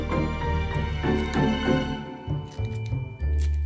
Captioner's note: scissors snipping